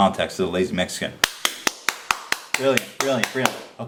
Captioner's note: applause